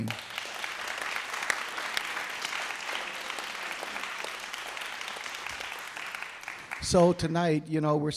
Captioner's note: applause